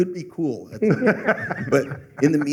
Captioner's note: laughter